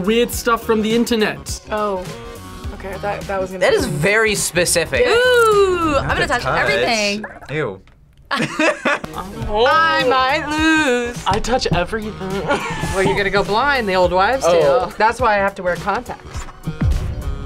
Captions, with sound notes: Weird Stuff From The Internet! - Oh, okay, I thought that was gonna be... - That is very specific. - Ooh! I'm gonna touch everything! - Ew! (both laugh) - Oh! - I might lose! - I touch everything! (laughs) - Well, you're gonna go blind, the old wives' tale. That's why I have to wear contacts.